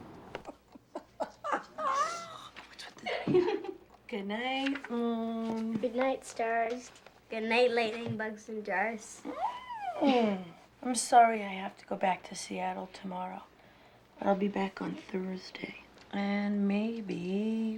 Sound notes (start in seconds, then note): 0.4 claire laughs; 9.3 squeals; 9.3 chuckles